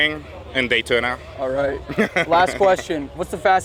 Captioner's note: laughs